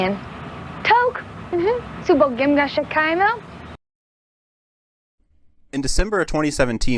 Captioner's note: Speaking Atlantean